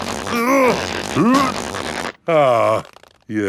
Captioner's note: grunting